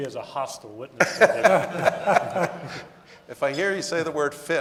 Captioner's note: audience laughing